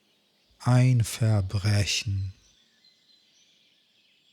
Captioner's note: german